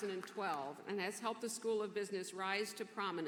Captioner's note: applause